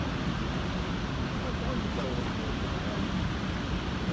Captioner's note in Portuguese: som das cachoeiras